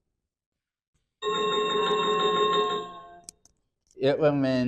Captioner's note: chiming sound effect